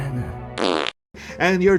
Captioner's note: fart